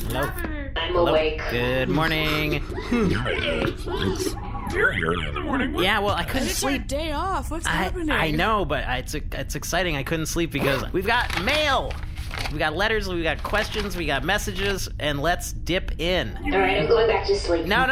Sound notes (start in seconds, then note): 2.7 yawns; 13.2 shuffling through letters